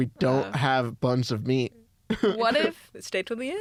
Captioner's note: laughs